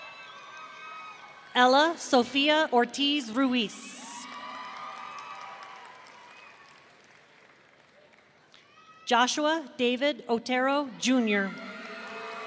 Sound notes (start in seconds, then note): 3.7 audience cheering